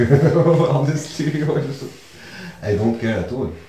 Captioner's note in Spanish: Ríe